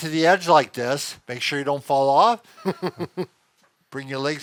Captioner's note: chuckles